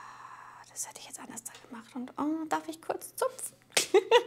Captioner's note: quietly